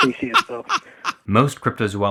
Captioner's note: laughing